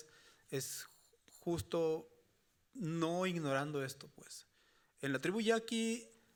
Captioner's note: speaking Spanish continues